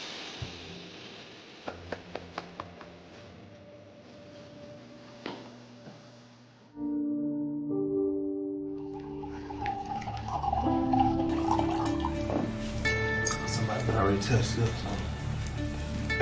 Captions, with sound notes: (liquid sloshing) (tense music) - Somebody done already touched this.